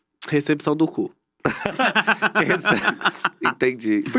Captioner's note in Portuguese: risos